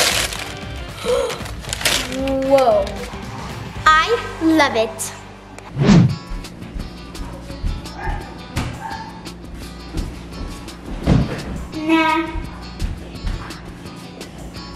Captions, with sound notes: (paper rustling) Whoa. I love it. (air whooshing) (steps thudding) - Nah.